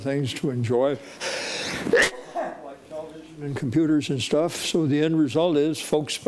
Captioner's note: sneezes